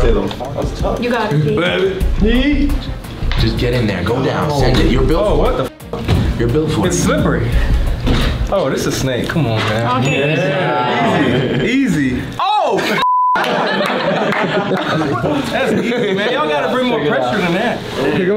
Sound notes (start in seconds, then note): 10.0 bell dings; 13.0 beep; 13.4 all laugh